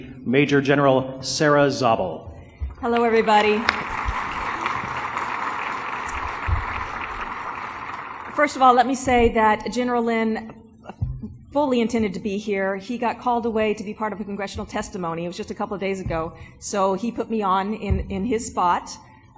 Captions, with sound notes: Major General Sarah Zabel. - Hello, everybody. ( applause ) First of all, let me say that General Lynn fully intended to be here. He got called away to be part of a congressional testimony. It was just a couple of days ago, so he put me on in his spot.